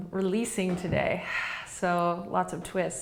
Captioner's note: exhaling